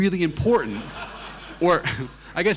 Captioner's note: audience laughing